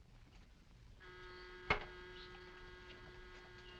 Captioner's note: door buzzer ringing